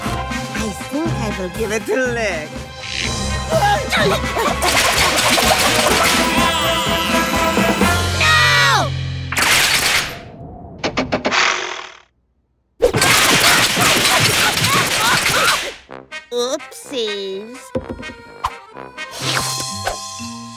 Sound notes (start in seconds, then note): 3.3 both exclaim fearfully; 12.9 traps snapping; 13.3 both groaning